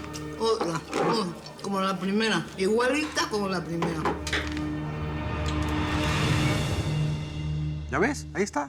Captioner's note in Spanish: masticando hielo